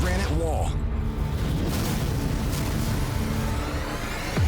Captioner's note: thudding